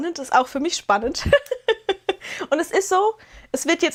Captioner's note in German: gelächter